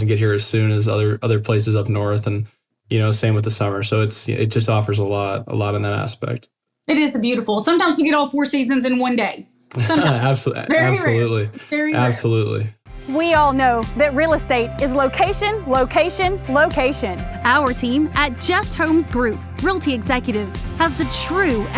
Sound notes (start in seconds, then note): 9.7 laugh